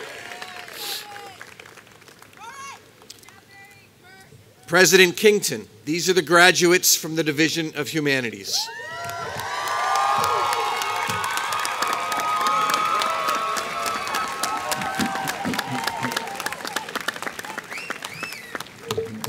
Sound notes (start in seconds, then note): 8.9 applause